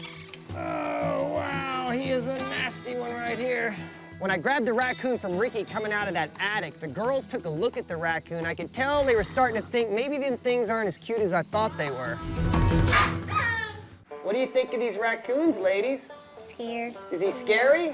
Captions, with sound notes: Oh, wow. He is a nasty one right here. When I grabbed the raccoon from Ricky coming out of that attic, the girls took a look at the raccoon. I could tell they were starting to think, "Maybe things aren't as cute as I thought." -[hisses] -[cries out] What do you think of these raccoons, ladies? -Scared. -Is he scary?